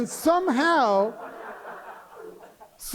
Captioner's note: laughter